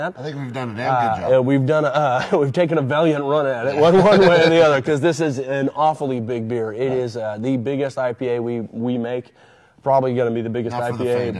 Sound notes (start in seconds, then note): 3.7 laughing